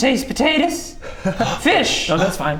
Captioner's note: gasp